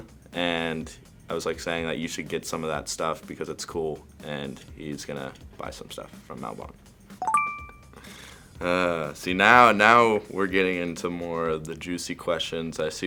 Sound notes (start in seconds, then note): 7.2 ding